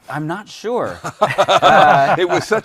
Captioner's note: laughs